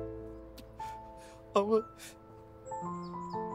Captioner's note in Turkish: Ağlıyor